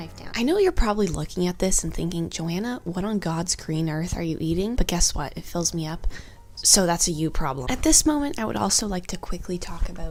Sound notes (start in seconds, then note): 6.1 inhales